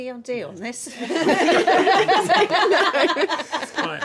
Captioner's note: laughing